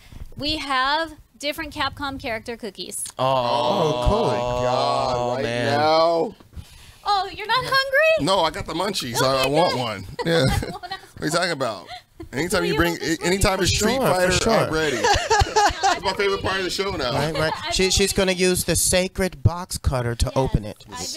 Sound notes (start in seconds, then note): 3.2 group mumbles; 14.5 group chuckles